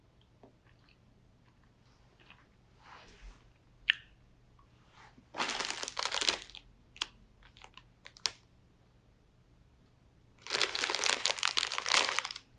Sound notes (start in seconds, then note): 3.9 eating & Rustling Sound; 10.4 rustling sound